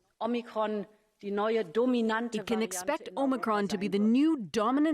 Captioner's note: speaking Foreign Language